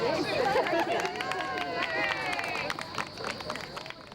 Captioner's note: clapping